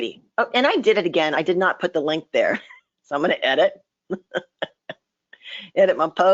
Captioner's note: laughs